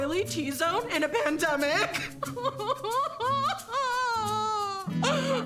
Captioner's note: crying